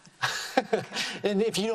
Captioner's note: laughing